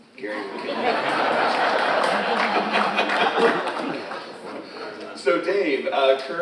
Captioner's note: all laughing; speaks faintly